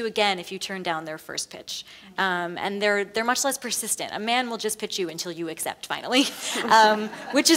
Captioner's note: laughs; laugh